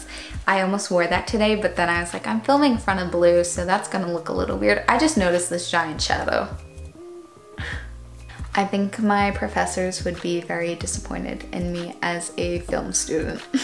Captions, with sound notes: I almost wore that today but then I was like "I'm filming in front of blue, so that's gonna look a little weird". I just noticed this giant shadow. *lets out air* I think my professors would be very disappointed in me as a film student.